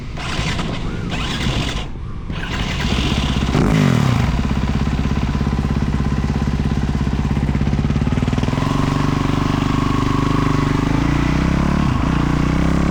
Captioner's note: engine roaring